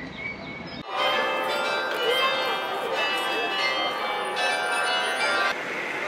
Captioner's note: bell sound